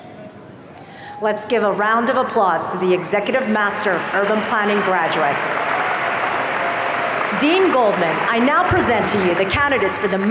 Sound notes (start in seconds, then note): 5.7 audience applauding